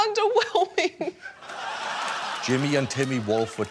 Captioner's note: laughter